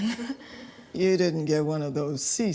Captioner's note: NAOMI chuckling nervously